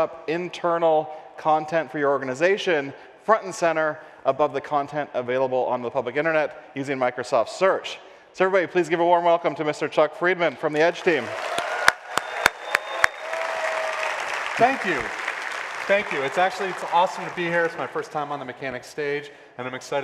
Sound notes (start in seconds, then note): 10.8 applause